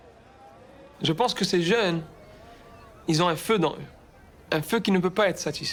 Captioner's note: speaking in foreign language